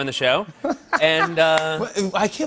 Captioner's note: laughter